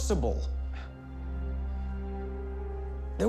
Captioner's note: scoffs